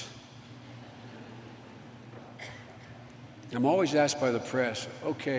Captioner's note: laughter